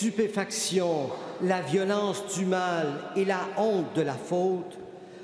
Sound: speaking French

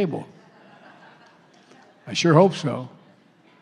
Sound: laughter

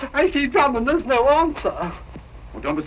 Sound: none

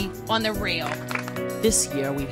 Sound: applause

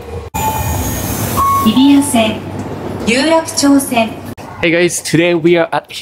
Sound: annoucements in japanese

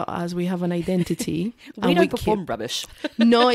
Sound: laughs

